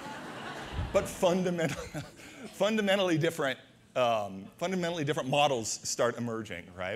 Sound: audience laughter

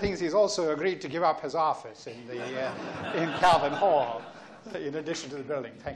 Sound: laughs

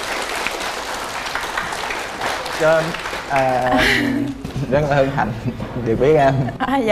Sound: applause

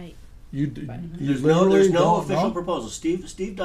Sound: voiceover

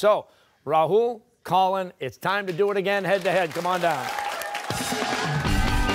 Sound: cheers and applause

